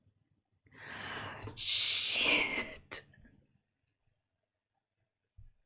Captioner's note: big gasp